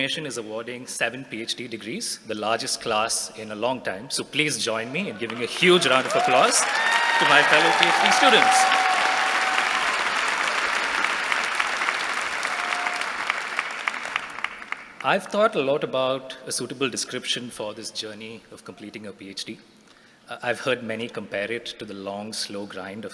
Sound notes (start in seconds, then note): 9.0 applause